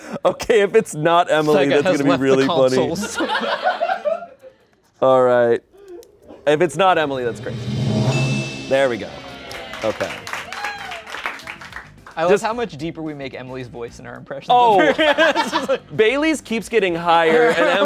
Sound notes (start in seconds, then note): 6.8 bell dings; 10.0 audience cheers and applauds; 12.3 crowd cheers